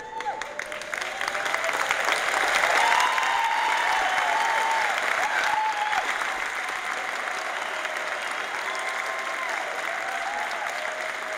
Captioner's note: applause